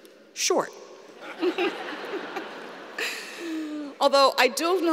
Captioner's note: laughter